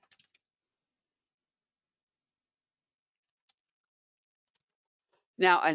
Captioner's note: 5 seconds pause